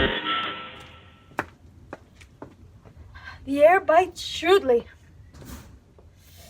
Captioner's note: footsteps resounding